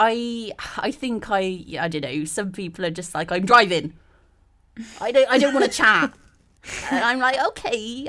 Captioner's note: all laugh